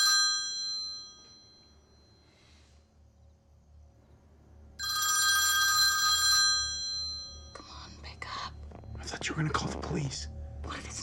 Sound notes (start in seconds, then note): 4.8 phone continues ringing